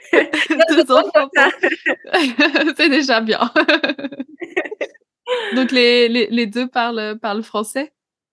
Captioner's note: laughs